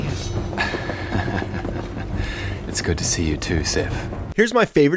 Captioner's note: laughs